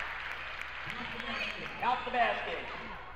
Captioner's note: crowd cheers